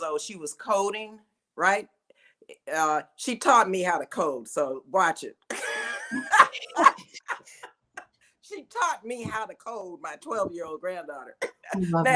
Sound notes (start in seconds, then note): 5.5 all laughing